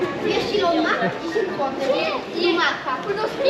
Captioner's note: children greeting